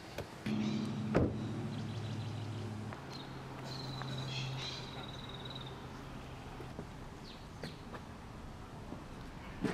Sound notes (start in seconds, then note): 5.1 birds chirping